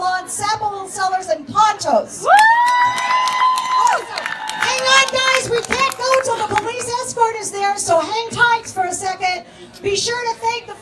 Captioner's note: cheer